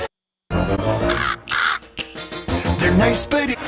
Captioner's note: crow squawks